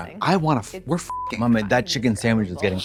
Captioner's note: beep